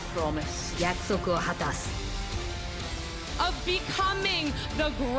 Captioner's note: foreign language